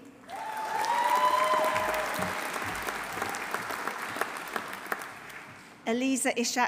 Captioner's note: audience applauding; audience cheering